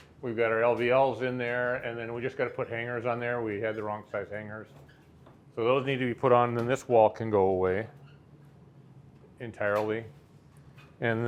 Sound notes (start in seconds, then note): none